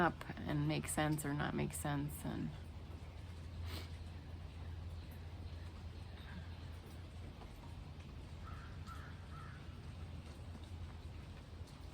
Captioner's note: sniffs